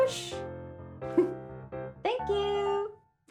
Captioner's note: giggles